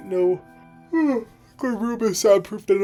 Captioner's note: yawning